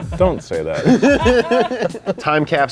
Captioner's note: laugh